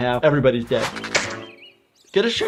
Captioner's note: slingshot snapping